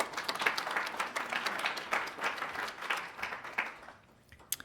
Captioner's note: attendees applauding